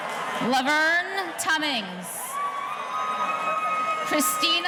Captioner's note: audience cheering